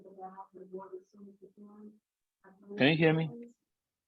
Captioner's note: group muffled chattering